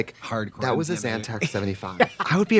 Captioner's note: laughing